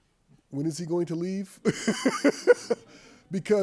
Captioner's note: laughs